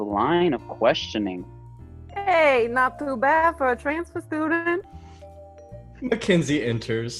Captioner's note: In a bad New Jersey accent